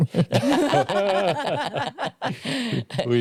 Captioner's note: laughter